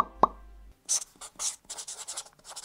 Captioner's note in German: Stiftkratzen